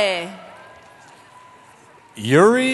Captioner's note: cheering